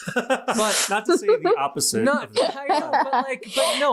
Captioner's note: laughing